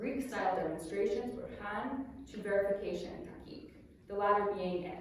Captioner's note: non-english speech